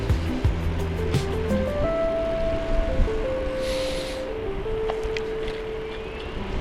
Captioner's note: wind Blowing